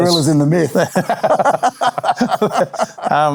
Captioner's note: laughing